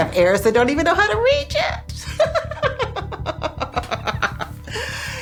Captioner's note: laughing